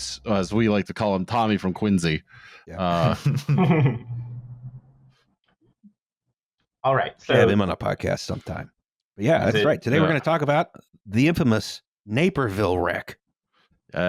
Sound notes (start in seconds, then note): 2.8 laughter; 4.2 beat of silence